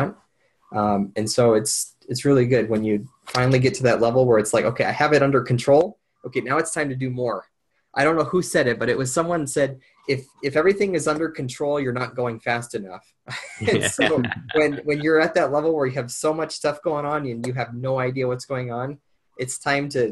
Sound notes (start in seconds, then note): 13.4 men laughing